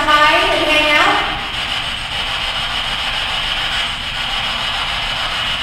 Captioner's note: static buzzing